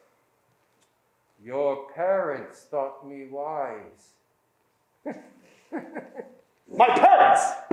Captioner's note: laughing